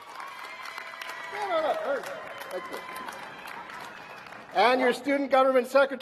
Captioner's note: cheers and applause